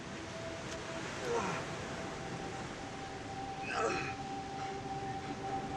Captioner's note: Bobby groaning